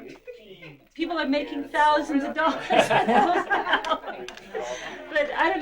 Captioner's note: crowd laughter